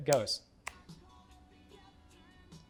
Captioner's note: snaps